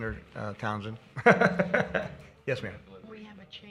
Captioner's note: laughs